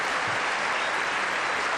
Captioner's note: applause